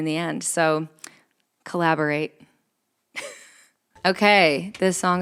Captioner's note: chuckles